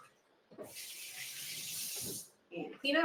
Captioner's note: water splashes